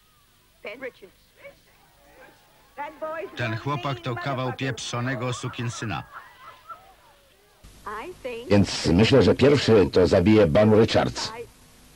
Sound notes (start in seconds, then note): 4.2 laughter